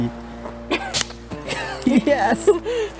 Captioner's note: wooden snapping